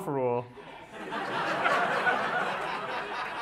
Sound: laughter

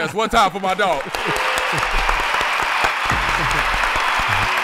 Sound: crowd applauding; hip-hop music

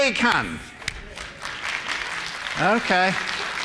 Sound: applause

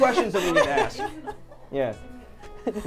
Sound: all laughing

